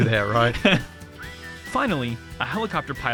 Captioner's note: laughs